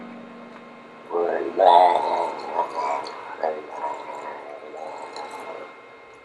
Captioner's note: gargling Sounds